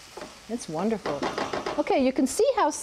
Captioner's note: tapping